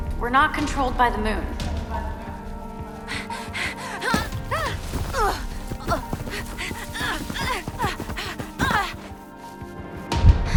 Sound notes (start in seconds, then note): 2.1 suspense music; 3.1 Mischa gasps; 5.0 Mischa grunts